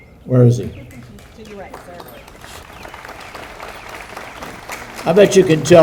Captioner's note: audience applauding